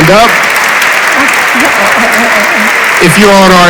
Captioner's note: audience applauds